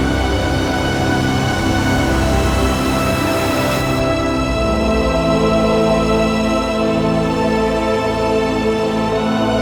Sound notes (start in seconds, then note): 1.3 whooshing; 6.5 dramatic music